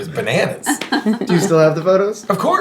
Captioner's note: laughing